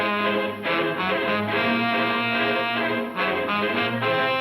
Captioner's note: none